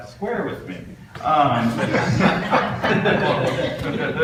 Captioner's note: audience laughs